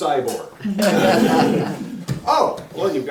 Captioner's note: laughter